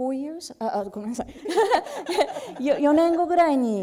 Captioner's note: speaking japanese; laughter; speaking japanese